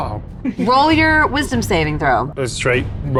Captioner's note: groaning